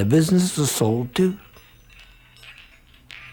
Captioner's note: none